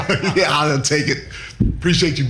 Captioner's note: laughing